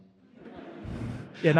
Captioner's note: audience laughing